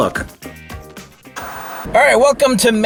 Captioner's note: TV Static